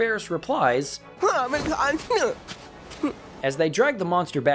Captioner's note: bratty grunts and tantrum sounds